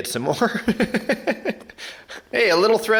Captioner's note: laughs